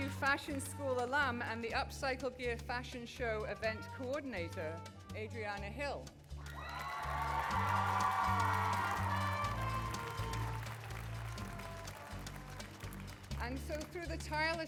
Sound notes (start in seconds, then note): 6.4 applause